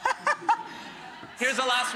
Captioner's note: Rachael laughing